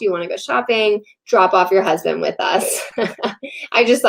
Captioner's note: laughs